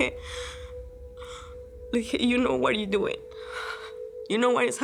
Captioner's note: speaking English